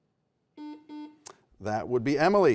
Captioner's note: buzzer beeps